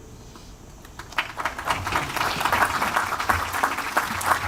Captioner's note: audience applauds